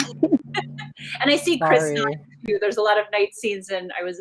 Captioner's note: laughing